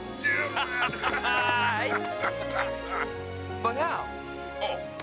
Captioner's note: both laughing